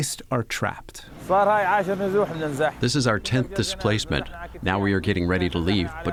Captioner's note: through translator